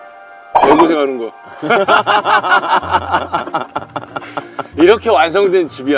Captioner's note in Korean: 폭소